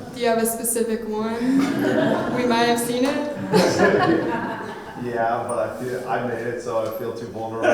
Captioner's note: audience response